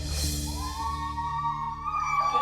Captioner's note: girls whooping